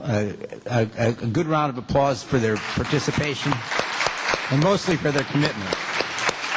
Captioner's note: applause